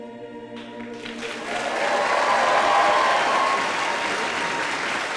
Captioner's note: applause